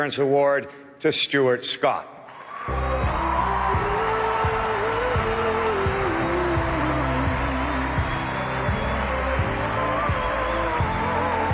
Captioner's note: applause and cheering